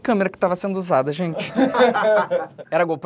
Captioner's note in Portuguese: risadas